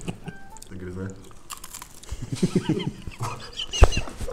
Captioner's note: sounds of traditional Ukrainian food; laughing